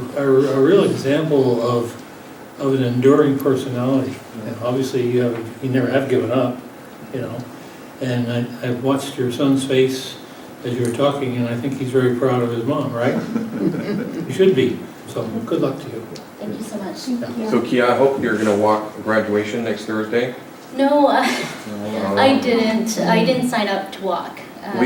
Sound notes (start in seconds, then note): 12.8 light laughter